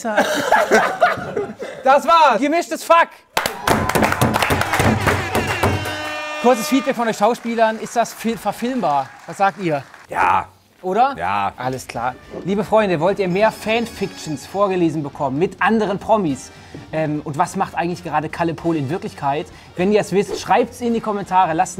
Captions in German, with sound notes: (Schallendes Lachen) Das war "Gemischtes Fuck". (Jubel) Kurzes Feedback von euch Schauspielern, ist das verfilmbar? Was sagt ihr? - Ja. Oder? - Ja! Alles klar. Liebe Freunde, wollt ihr mehr Fanfictions vorgelesen bekommen mit anderen Promis? Und was macht eigentlich gerade Kalle Pohl in Wirklichkeit? Wenn ihr es wisst, schreibt's in die Kommentare,